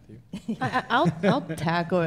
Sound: laughter

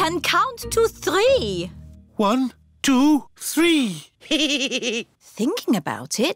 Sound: giggles

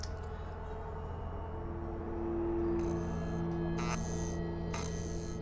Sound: static Noise

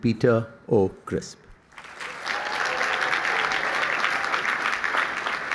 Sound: applause

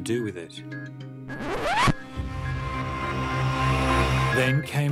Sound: record scratches

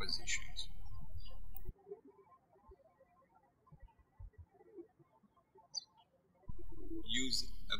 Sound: birds chirping

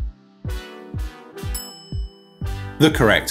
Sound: bell clinking

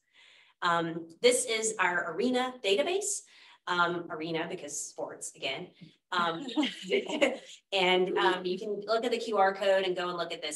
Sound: laughter

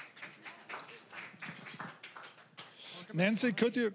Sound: scattered applause

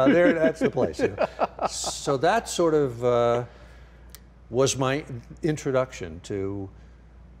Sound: laughing

